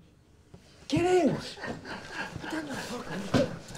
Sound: Sean laughing

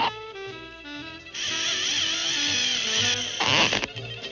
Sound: reel spinning

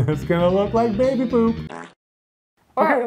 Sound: laughs; fart sound effect

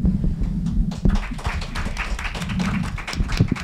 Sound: group applauds

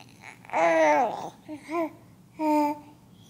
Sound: baby coos

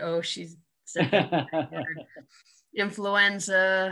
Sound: laughing

